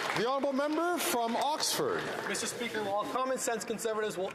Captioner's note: some Applause